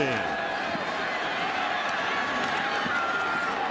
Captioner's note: cheering